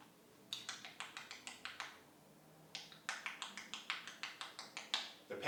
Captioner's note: sound of typing on laptop